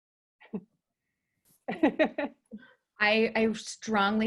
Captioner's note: laughing